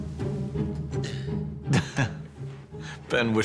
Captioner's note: grant chuckles